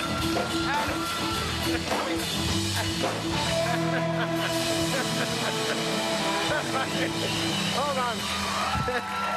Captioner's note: laughter